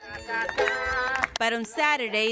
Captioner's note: people clapping